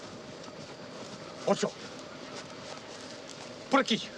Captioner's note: speaks Spanish